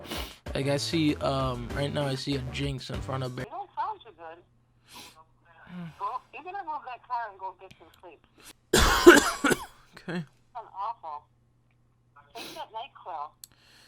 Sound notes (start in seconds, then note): 4.8 sniff; 8.7 coughing